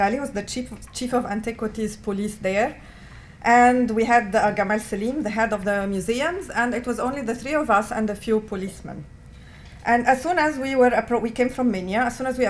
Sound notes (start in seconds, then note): 4.3 non-english